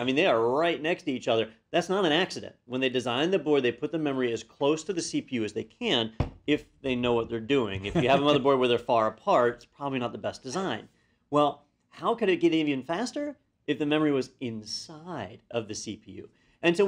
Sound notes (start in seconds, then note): 7.8 laugh